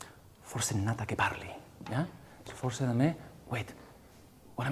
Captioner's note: speaking song lyrics in a foreign language